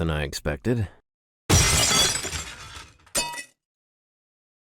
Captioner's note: sound of shattering glass